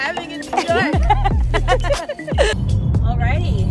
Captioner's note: both laughing